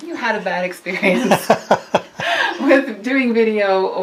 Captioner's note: laughs